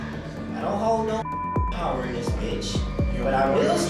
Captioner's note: beep